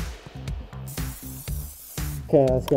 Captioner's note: can spraying